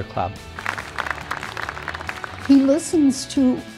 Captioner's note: clapping